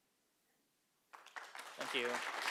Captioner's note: applause